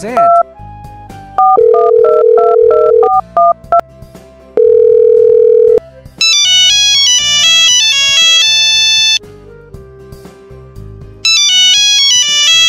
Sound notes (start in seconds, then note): 1.4 phone dial; 5.9 Nokia Ringtone